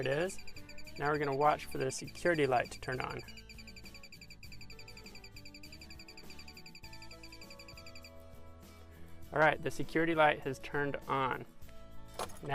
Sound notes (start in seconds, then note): 3.9 device beeps rapidly